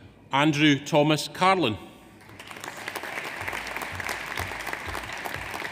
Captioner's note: audience applauds